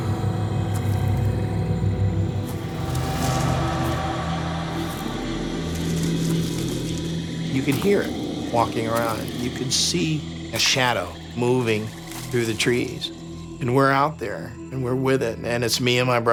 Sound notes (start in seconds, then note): 0.7 leaves crunching